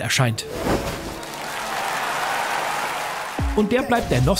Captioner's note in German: Jubel, Applaus